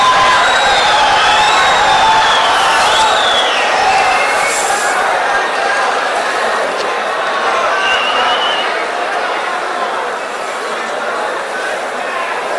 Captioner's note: wild applause and cheering for 22 seconds